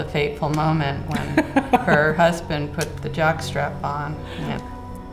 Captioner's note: chuckling